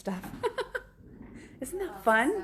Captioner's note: laughs